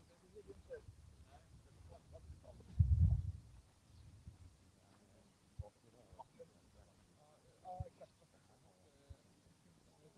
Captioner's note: indistinct chatter